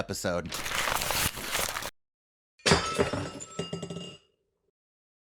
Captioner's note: crunching up paper